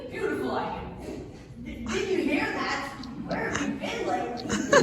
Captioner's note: chuckles